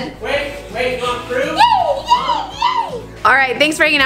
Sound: shouts

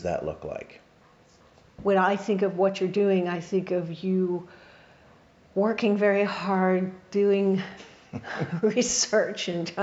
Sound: laughs

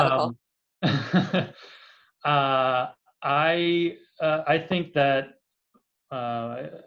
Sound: laughs

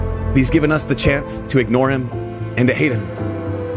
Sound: voiceover

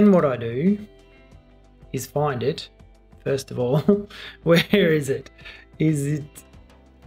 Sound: laughs

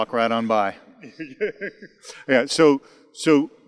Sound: he laughs

